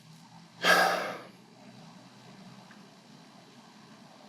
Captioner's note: sighs